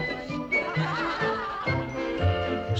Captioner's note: laughter